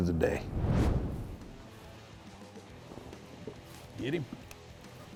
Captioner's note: whooshing